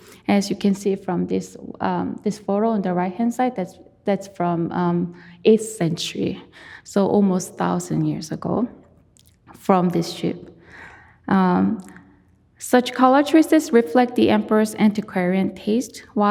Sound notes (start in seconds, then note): none